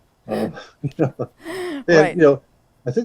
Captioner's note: laughs